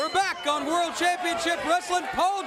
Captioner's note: bell ringing